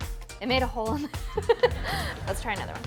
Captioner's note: laughing